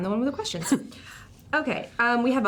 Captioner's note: chuckles